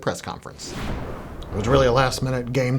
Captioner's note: logo whooshes